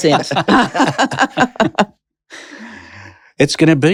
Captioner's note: laughter